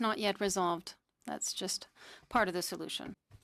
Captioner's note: speaking in French